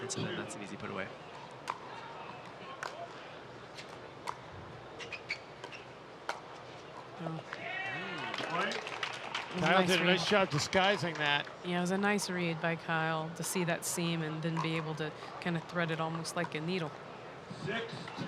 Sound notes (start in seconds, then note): 4.9 shoes squeaking